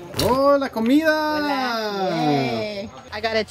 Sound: speaking in Spanish

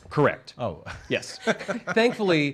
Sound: everyone laughs

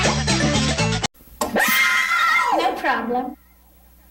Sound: kids screaming

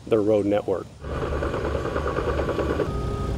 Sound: road machine roaring; road machine beeping

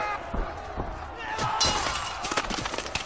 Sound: tearing noises; screams

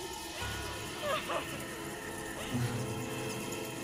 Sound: sobbing

